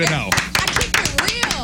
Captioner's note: clapping